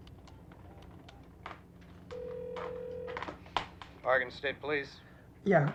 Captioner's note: none